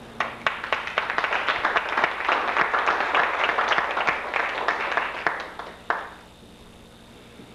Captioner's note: applause